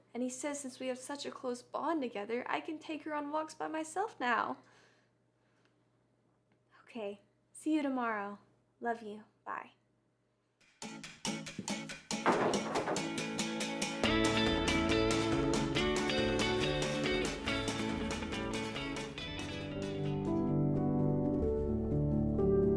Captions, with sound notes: and he says since we have such a close bond together, I can take her on walks by myself now. Okay, see you tomorrow. Love you. Bye. (upbeat music) (wood thudding) (melancholic music)